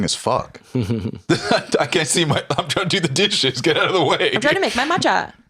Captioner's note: laughs